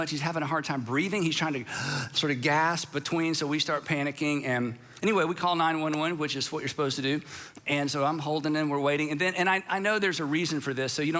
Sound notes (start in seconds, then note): 1.7 gasps